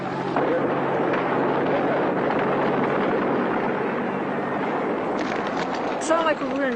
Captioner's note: gunfire